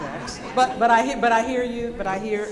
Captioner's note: audience laughing